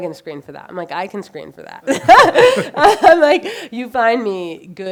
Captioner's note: laughs